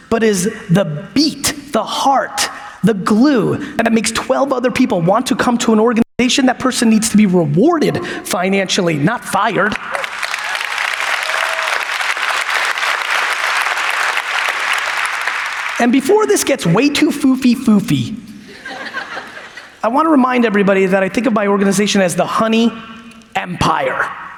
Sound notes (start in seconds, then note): 9.9 audience applauds; 18.4 audience laughs